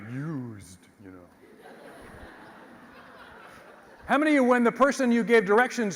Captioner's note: laugh